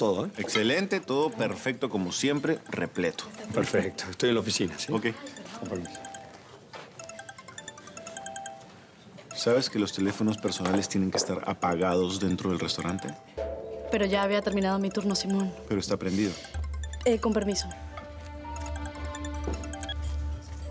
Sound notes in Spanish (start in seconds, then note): 4.9 Suena el celular; 9.4 Suena el celular